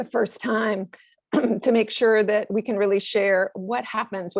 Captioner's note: cough